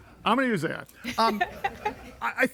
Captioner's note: everybody laughing